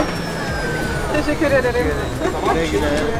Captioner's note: Turkish